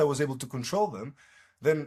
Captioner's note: none